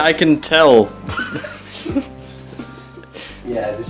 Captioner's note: holding back laughter